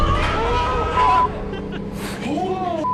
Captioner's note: screaming